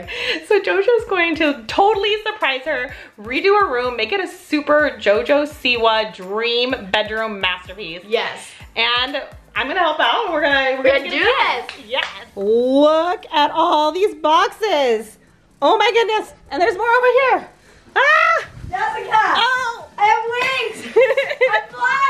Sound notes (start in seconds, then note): 18.0 screams; 20.6 laughs